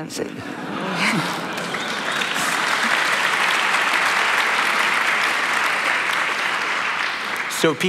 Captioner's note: laughter and Applause